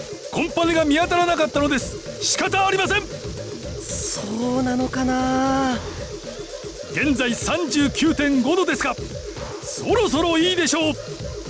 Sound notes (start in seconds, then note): none